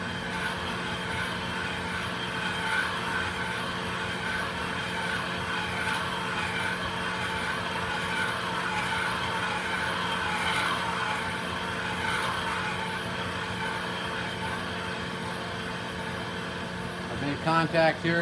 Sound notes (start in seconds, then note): 1.5 metal grinding